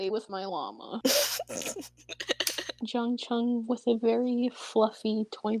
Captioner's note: laughs